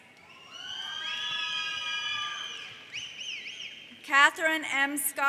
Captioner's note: audience whistles in admiration